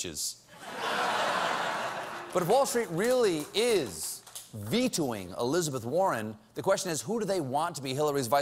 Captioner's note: laughter